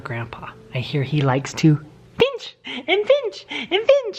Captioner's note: laughs